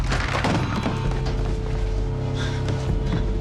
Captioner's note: dial tone